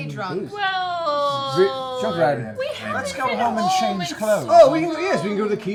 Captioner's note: whining